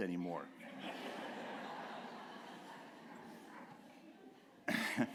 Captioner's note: laughter